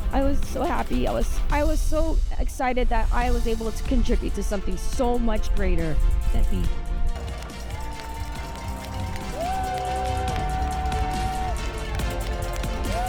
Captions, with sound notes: - I was so happy. I was so excited that I was able to contribute to something so much greater than me. (crowd cheering)